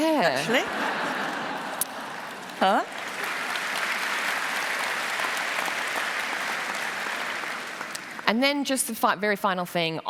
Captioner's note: laughter and applause